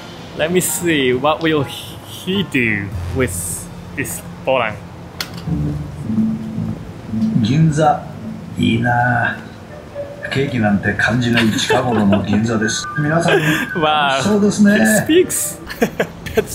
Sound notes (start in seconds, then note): 5.1 click; 8.7 dog speaks in japanese; 11.3 laughs; 15.6 chuckles